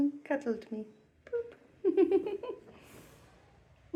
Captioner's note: laughing